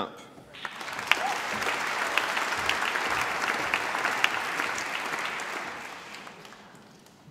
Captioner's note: applause